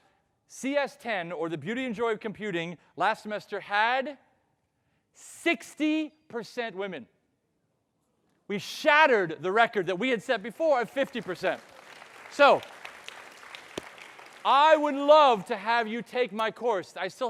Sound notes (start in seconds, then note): 10.8 audience clapping